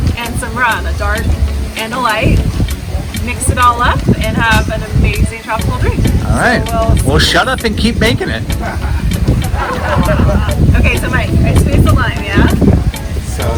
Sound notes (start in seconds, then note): 8.4 laughter